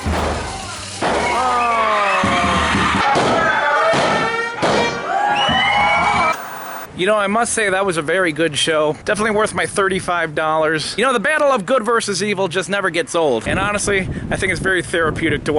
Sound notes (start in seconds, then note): 5.3 audience cheering